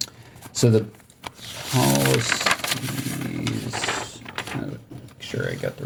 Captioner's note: paper crinkling